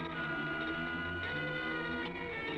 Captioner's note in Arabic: التصفير